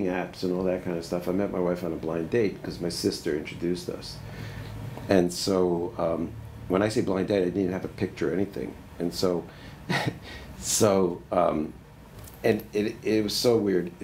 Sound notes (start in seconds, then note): 9.8 laughs